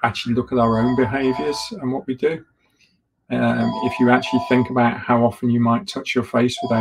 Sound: phone ringing in the background

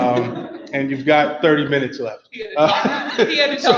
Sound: laughs loudly

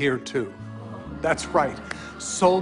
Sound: crowd gasps and murmurs

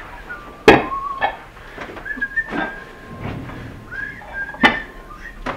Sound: happy whistling continues

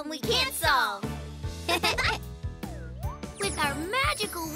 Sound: both chuckle

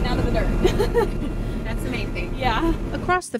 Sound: laughs

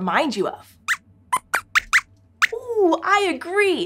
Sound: squeaks squeaks

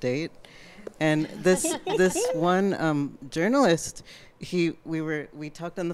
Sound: audience, panelists chuckle

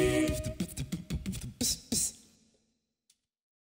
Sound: beatboxing

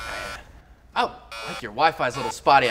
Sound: razor buzzing

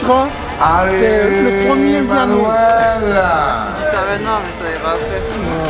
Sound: laughs

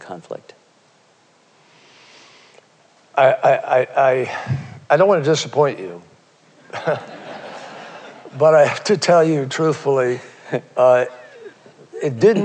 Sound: laughter

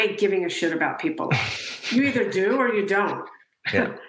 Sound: laughing

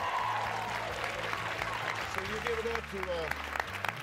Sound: cheers and applause

